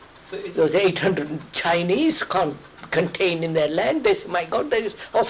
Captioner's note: laughs